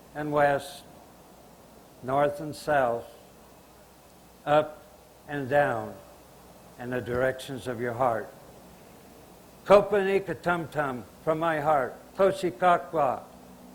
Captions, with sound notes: and west, north and south, up and down, and the directions of your heart. [Speaking Chinook language] from my heart, [speaking Chinook language]